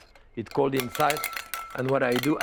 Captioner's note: eggs rattling